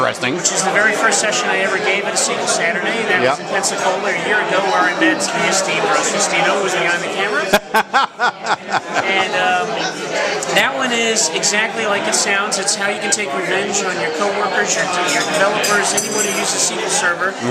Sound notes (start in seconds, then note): 10.4 laughter